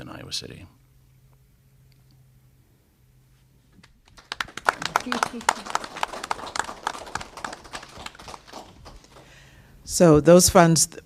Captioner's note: applause